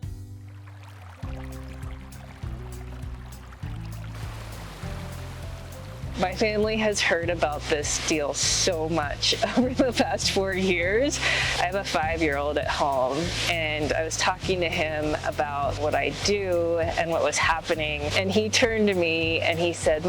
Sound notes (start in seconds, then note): 0.8 gentle music; 0.8 water gently splashing